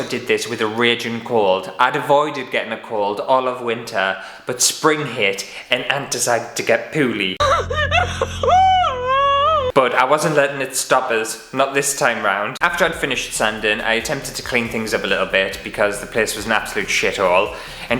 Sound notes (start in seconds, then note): 7.4 crying!